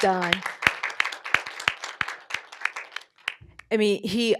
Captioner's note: applause